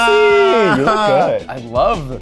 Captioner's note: laughs